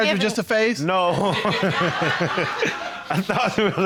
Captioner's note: laughs